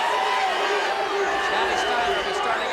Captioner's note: audience barks